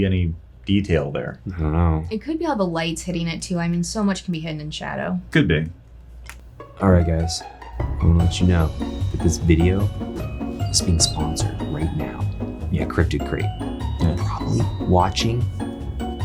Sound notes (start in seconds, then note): none